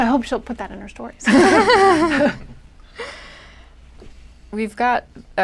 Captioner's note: laughter